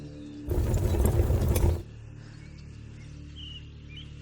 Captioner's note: fire roaring